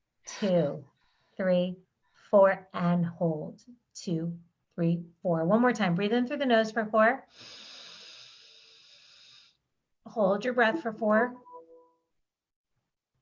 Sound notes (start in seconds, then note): 7.4 inhaling